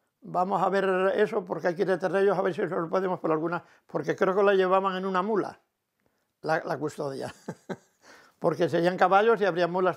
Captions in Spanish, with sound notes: vamos a ver eso, porque hay que ir detrás de ellos a ver si podemos con alguna...". Porque creo que la custodia la llevaban en una mula [ríe]. Porque serían caballos y habría mulas